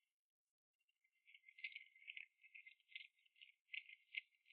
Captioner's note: hooves clop